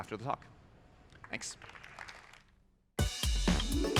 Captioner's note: applause